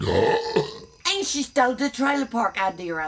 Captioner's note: burps